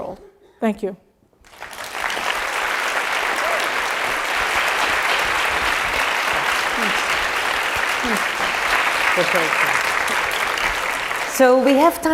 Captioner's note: applause